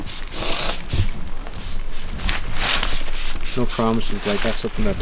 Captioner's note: spray can spurting